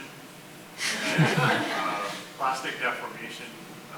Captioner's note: everyone laughs